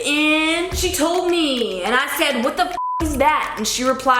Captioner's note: beep